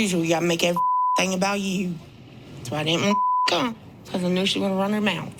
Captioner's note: beep; beep